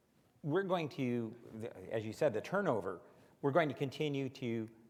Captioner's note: none